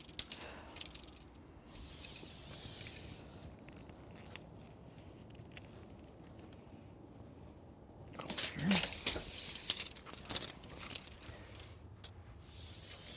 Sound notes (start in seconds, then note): 1.7 tape measure rattles